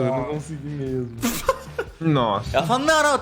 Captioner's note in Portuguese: risada